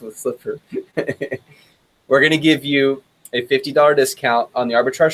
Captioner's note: chuckles